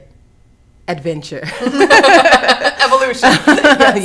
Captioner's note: laughing